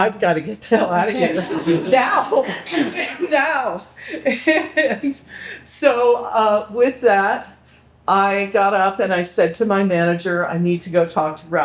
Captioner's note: people laughing